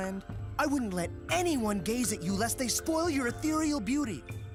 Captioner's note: none